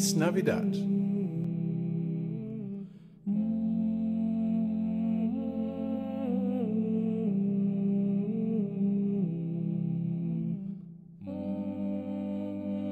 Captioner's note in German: weihnachtliches Summen